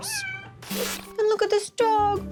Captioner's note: cat meowing